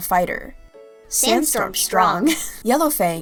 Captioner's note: laughter